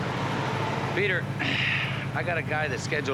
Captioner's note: sighs